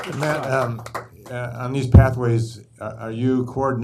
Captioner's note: applause